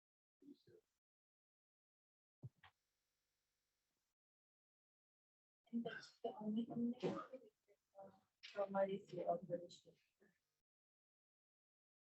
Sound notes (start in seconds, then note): 6.3 non-english speech